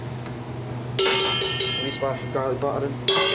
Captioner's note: metal clanging